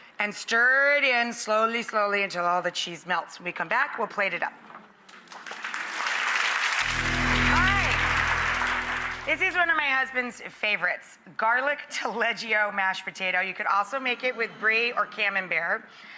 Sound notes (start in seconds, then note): 5.1 clapping